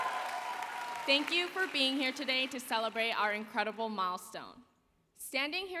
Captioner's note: applause